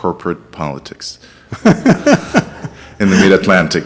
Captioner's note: audience laughs